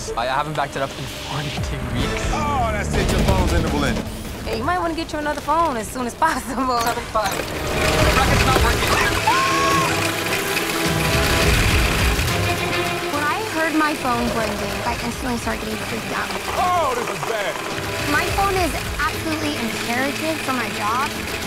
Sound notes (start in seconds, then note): 6.2 chuckles; 9.0 screams